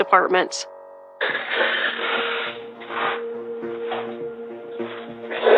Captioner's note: sobbing